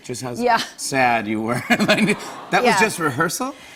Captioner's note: audience aws